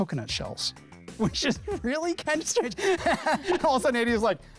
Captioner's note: laughs